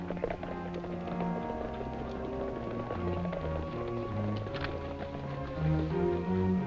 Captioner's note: galloping